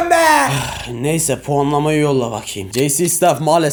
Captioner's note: sigh